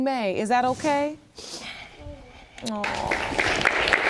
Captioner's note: applause